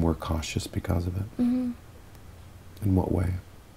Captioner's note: hums in agreement